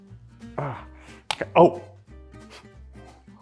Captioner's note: grunts